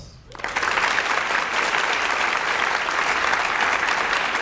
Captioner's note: audience applauds